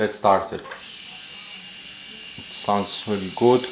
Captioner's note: razor buzzing